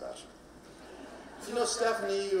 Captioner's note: audience laughing